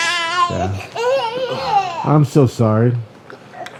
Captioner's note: baby crying